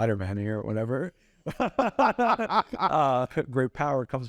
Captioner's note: both laugh